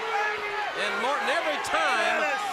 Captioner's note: crowd chatter